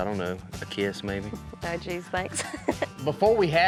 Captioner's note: chuckles